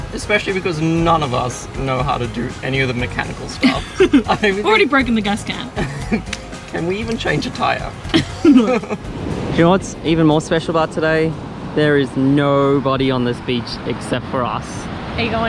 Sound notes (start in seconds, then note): 3.5 laughing; 7.9 laughing